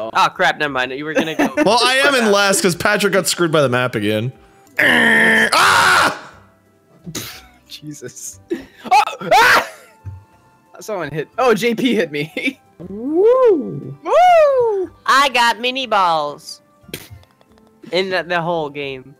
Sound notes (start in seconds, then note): 4.8 imitates a truck horn; 8.8 laughing; 9.3 screams